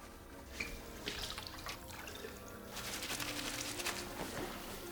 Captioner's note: water running